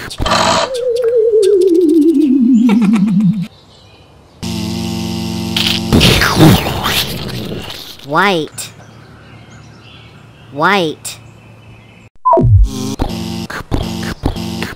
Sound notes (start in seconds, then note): 0.1 click; 0.3 powering down; 4.4 buzz; 5.6 crunch; 5.9 explosion; 12.2 beep; 12.4 buzz; 13.5 pounding footsteps